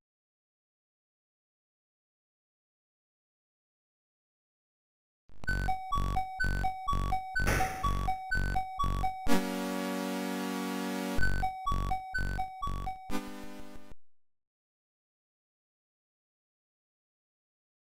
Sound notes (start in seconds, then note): 5.1 action music; 7.4 gun shot